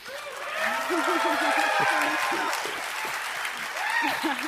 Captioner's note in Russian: бурные овации; смеется